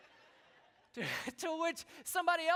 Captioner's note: laughter